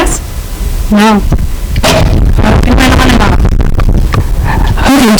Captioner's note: static rumbling